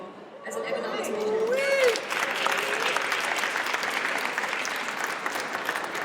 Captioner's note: audience cheers and applauds